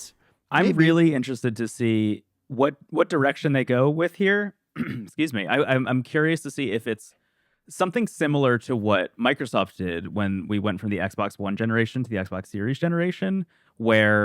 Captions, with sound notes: Right. Maybe. I'm really interested to see what- what direction they go with here. (clears throat) Excuse me. I- I'm curious to see if it's something similar to what Microsoft did when we went from the Xbox One generation to the Xbox Series generation, where